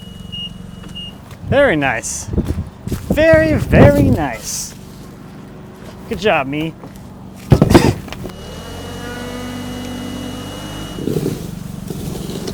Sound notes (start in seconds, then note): 7.6 laughing; 8.6 fork truck motor humming